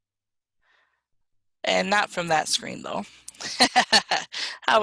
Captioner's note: laughs